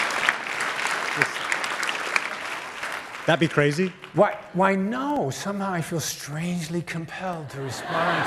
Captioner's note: applause